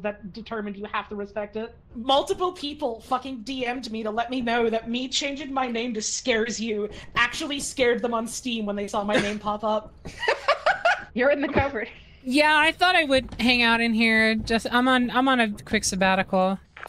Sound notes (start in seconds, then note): 10.1 laughs